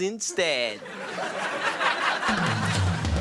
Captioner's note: audience laughing